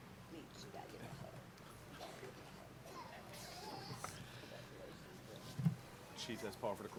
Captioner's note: background Discussion